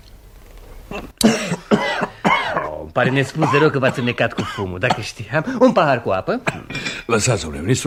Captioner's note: sound - coughs